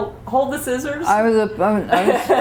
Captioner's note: laughter